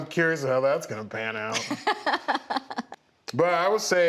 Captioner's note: laughs